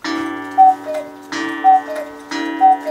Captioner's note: cuckoo call